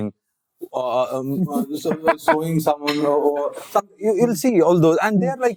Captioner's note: stuttering